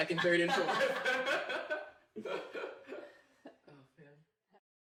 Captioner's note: laughter